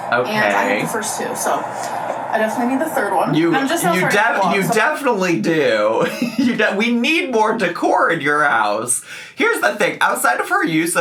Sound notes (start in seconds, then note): 5.5 chuckles